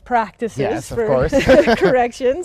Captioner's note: laughs